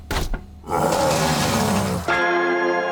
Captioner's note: Dunk roars, room clatters